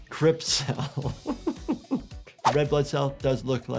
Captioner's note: laughing